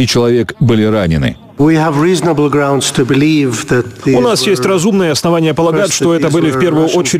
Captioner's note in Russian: Речь по-английски